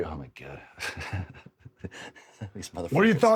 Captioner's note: Drew chuckles